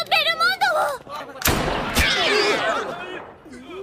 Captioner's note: Anne speaking Japanese; cat screeches; gun fires